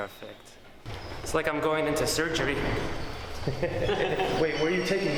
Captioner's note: chuckles